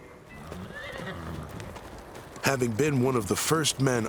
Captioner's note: horse neighs